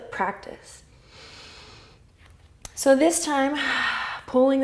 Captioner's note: exhale; inhale